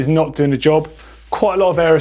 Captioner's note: air hissing